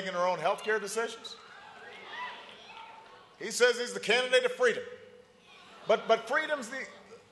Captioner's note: cheering and applause